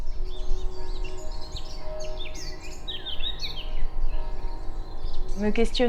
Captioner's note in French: bruits d'oiseaux